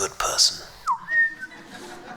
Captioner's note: laughs; bird whistling continues